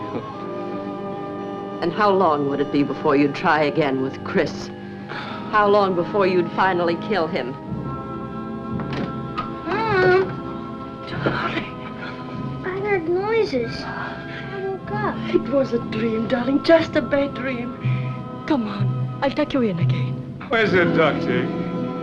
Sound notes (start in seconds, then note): 5.2 scoffs; 8.7 door Opens